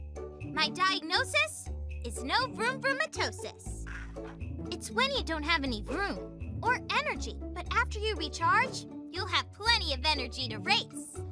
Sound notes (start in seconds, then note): 3.9 sighs